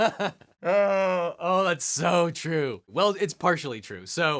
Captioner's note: laughing; groans